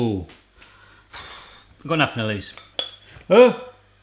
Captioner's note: sighs